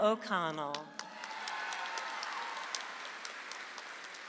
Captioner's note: audience applauds